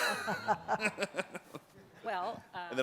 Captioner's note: chuckles